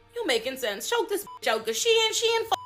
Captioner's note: beep